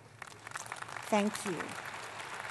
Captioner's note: applause